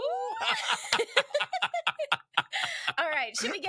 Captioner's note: both laughing